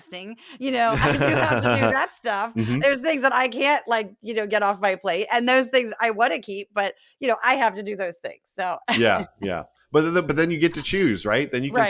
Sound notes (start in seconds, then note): 0.7 laugh; 8.9 laugh